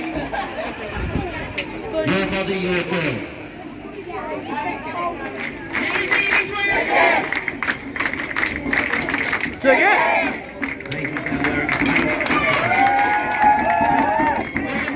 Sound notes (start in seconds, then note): 7.5 clap-chant; 10.8 applause, cheering